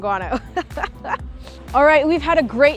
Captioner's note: laughing